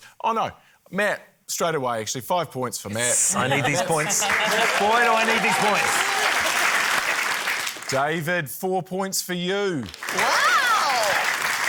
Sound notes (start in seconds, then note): 7.2 applause